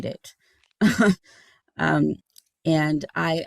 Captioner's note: giggling